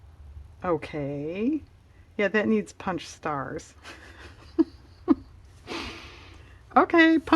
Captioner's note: laughs